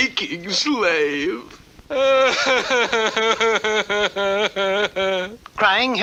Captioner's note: King Cup cries hard